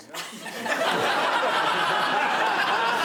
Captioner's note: laughter